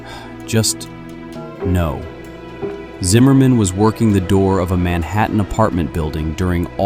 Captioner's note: sighs